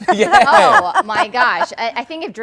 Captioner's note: laughter